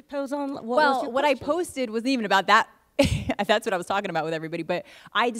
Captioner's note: laughs